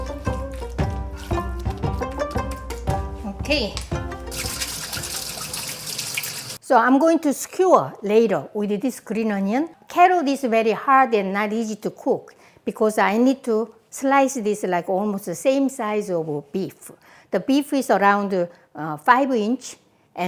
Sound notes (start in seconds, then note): 0.0 lively music continuing; 4.8 water splashing